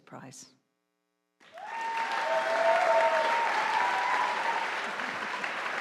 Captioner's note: audience applauding